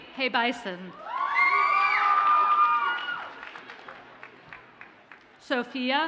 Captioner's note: audience cheers and applauds